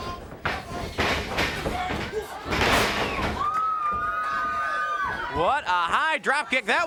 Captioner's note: footsteps plodding; crowd cheering; body thudding